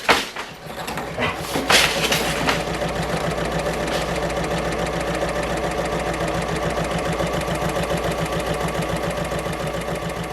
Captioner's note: sewing Machine Sounds